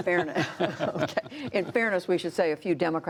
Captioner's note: laughter